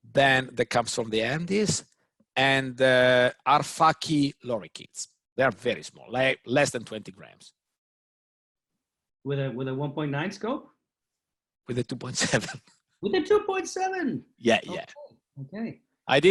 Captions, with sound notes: That comes from the Andes and Arfaki lorikeets. They are very small, less than 20 grams. - With a 1.9 scope? - With a 2.7 (chuckles) - With a 2.7! - Yeah, yeah.